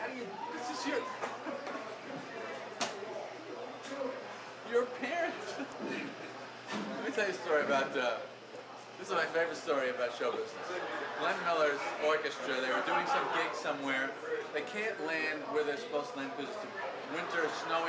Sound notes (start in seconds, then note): 2.9 laughter